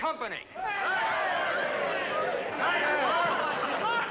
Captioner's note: men cheer